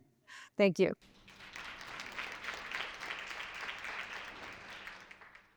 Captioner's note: attendees applauding